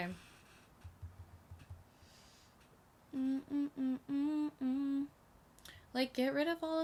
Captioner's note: humming cutely